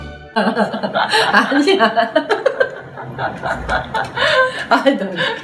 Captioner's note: laughs